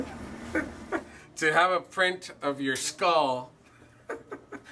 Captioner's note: laughing